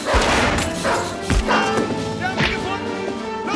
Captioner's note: gunshot